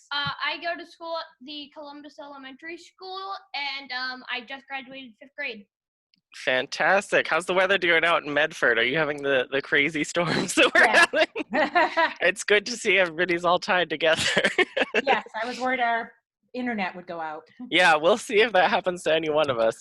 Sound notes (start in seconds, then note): 13.7 laughs